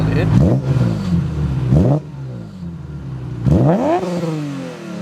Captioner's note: engine revving